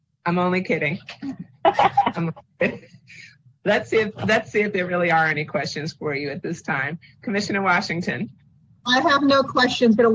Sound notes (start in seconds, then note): 1.2 laughs; 1.5 distorted audio